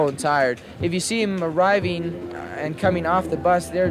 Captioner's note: archival news audio